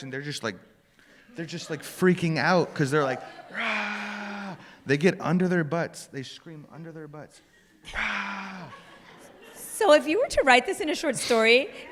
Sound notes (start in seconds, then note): 3.5 screams; 7.9 screams